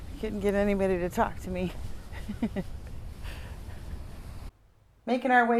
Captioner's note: laughs